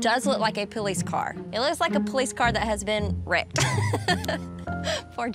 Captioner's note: laughs